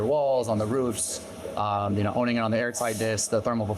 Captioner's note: audio distorting